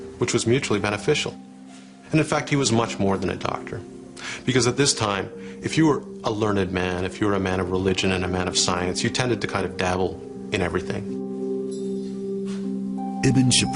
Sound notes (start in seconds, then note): 12.3 sniffs